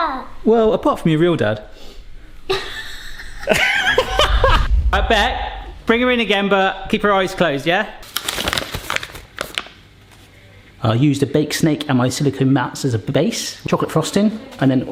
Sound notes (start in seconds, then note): 2.4 woman snickers; 2.6 laughs; 8.0 paper rustling sound